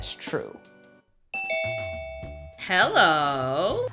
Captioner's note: bell ringing